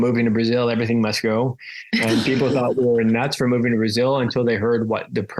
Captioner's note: laughs